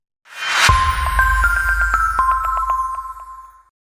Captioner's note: chiming